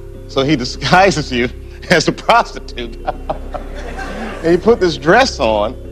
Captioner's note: γέλια ειρωνικά